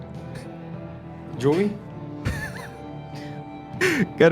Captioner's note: Joui laughs